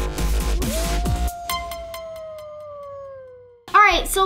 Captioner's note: wolf howling